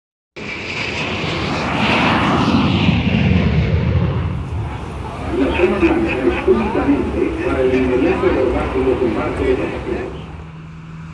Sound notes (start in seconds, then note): 0.4 engine sounds; 5.3 laughter and unintelligible talking